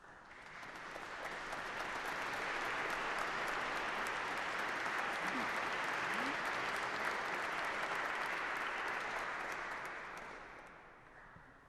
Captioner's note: applause